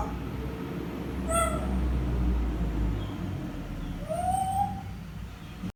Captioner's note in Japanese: 外の車の音